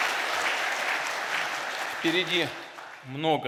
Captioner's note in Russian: Аплодисменты